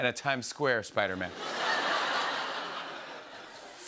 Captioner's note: laughter